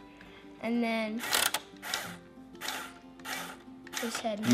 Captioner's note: motor whirring